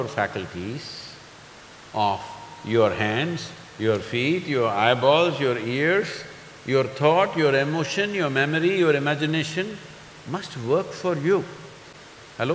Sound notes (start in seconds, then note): none